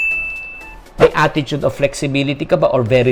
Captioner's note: chime; swoosh